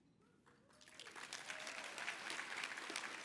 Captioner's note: applause